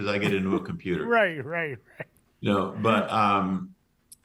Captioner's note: laughing